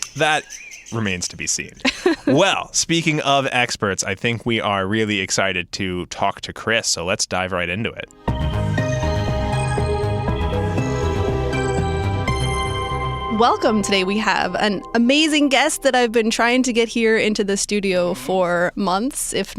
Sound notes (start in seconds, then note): 1.7 laughing